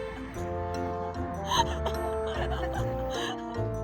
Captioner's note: laughing